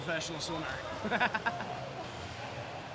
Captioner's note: laughing